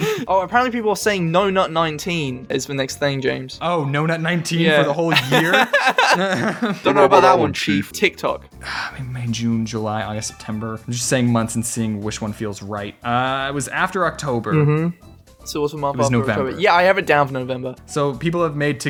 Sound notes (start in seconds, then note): 5.1 both Laugh